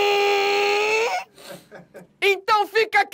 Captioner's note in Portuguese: risadas